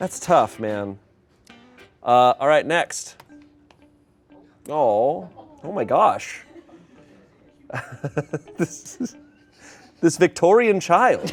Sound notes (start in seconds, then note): 6.3 laughs